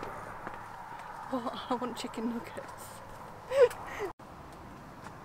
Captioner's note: laughs